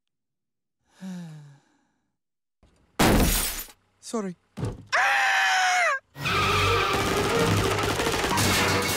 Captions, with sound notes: *sigh* sorry AAAAAAAAAAAAHHHHHHH!!